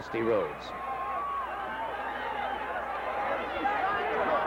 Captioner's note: crowd chattering